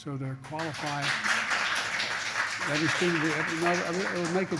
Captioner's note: applause